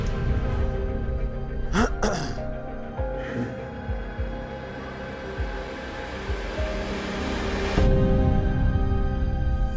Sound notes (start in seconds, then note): 1.7 clears throat; 5.9 dramatic music